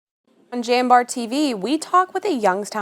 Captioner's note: gentle Womanly Voice